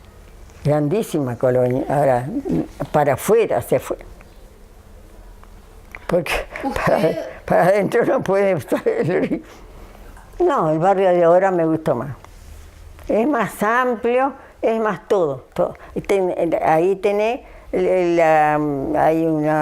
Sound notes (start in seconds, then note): 6.4 she laughs